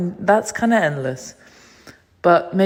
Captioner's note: breath